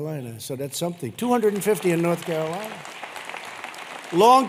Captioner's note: applause